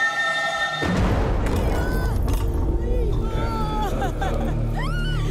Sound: theme music playing; woman crying and screaming

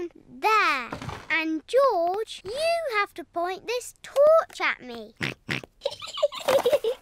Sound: snorts; giggling

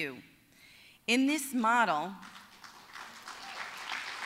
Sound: applause

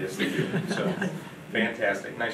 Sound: audience laughing

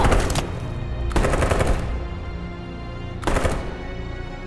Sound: gunfire

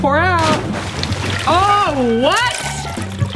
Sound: splashing

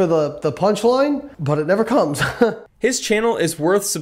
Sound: laughs

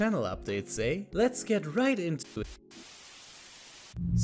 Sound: static noise

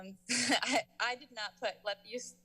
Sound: chuckles

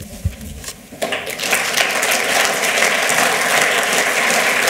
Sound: applause

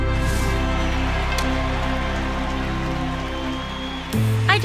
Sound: audience applauding

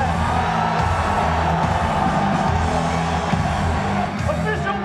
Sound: crowd cheers

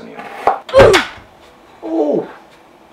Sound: ooh! Effect

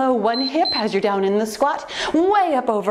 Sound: timer beeps

